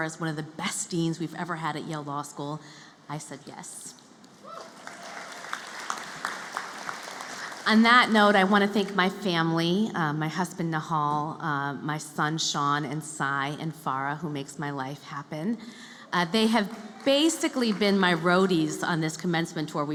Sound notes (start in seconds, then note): 4.5 applause